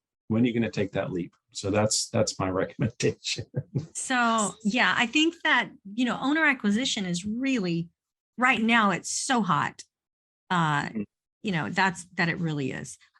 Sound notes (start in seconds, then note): 2.7 chuckles